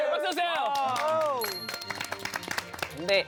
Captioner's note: applause